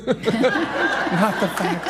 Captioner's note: audience laughs